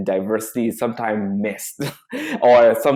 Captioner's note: chuckles